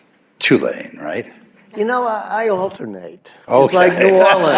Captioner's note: laughter